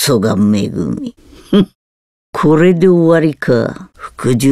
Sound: laugh

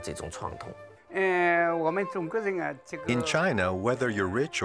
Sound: speaking Chinese

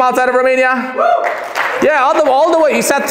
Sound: shouts

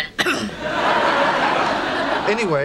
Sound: background laughter

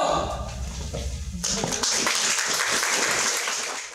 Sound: applause

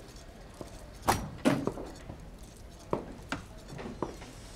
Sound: wheels spin; door opens; door creaks

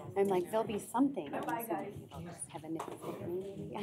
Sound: indistinct chatter

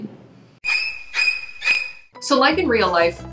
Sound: ominous shrieking

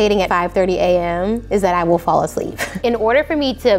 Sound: laughs

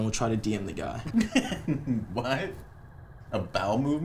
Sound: laughs

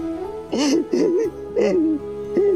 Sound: wailing

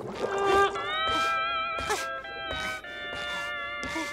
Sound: panting

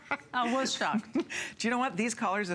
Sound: laughter

